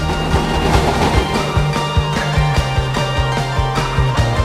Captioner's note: tram rattles